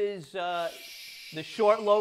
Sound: shushing

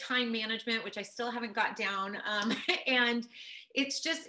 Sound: laughs

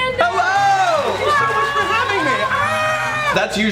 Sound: cheering

